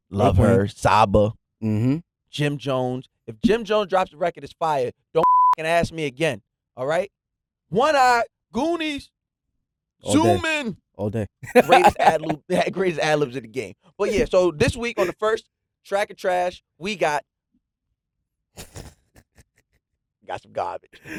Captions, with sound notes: - Love her. Saba. - Mm-hm. Jim Jones, if Jim Jones drops a record is fire. Don't [beeps] ask me again, all right? One Eye, Goonies, zoomin’. All day. Greatest ad libs of the game, but yeah, so this week on the first, Track and Trash, we got-- We got some garbage.